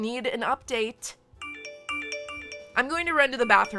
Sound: phone notifications

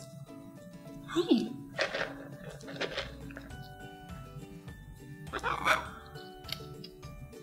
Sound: treats rustle, macaw squawks

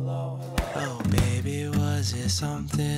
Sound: punching

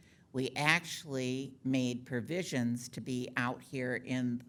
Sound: none

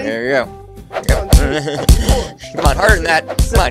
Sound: punches

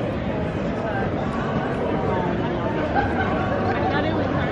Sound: people chattering

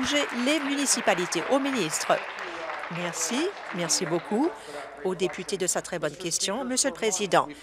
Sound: applause

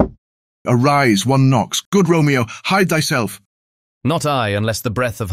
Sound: knocking within

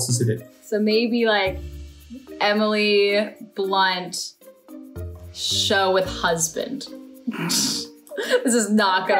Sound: laughs

